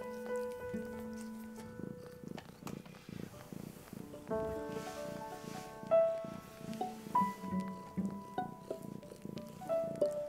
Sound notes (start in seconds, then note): 3.3 heavy purring